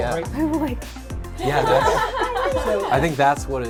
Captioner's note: giddy giggles